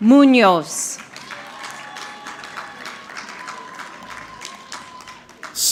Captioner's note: audience clapping